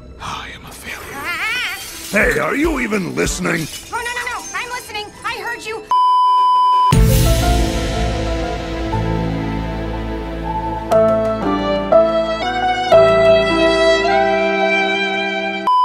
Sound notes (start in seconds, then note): 1.4 that cute little "I'm on to something" screech; 5.9 beeeeeep